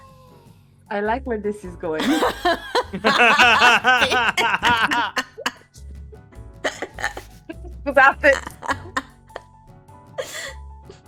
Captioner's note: general laughters ensuing